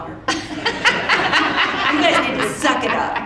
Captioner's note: audience laughing